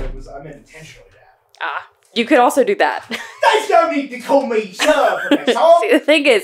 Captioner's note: much accent